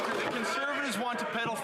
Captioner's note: some Applause